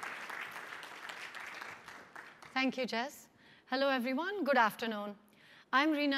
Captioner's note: applause